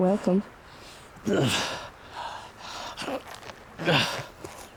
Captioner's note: Chris groaning